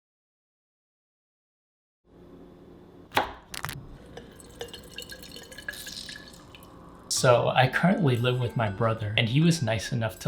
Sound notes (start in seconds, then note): 0.0 no sound; 3.5 Crunch; 4.0 pouring; 5.8 Squish